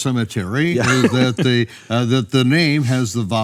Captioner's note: laughs